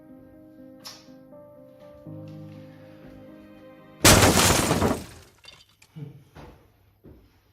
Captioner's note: crashing sound